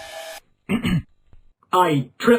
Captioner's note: ahem